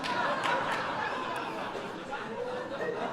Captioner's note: laughter